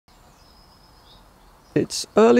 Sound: birds chirping

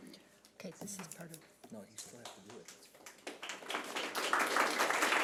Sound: people chattering softly; audience clapping

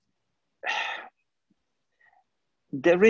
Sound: sigh

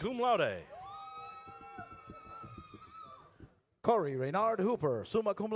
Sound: audience cheers

